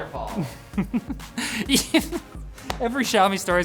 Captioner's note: chuckles